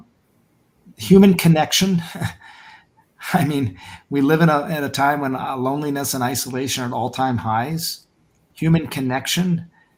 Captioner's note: laughs